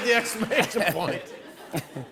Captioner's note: laughter